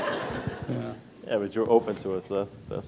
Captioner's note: laughter